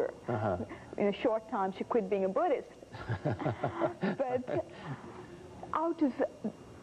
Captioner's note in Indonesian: tawa